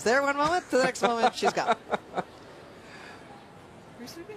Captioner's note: laughter